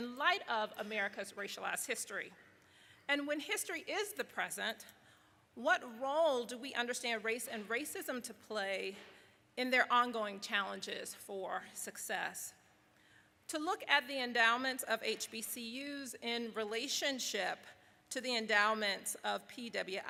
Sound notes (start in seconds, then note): none